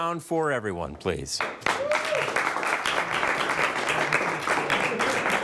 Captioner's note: everybody clapping